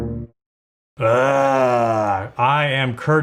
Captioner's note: groans